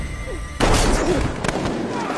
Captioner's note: gunshot